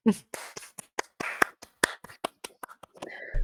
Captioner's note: applause